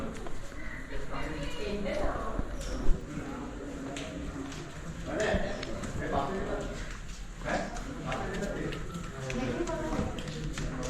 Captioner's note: footsteps Echoing